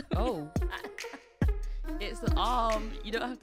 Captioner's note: laughs